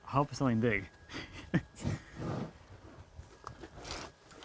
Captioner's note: laughs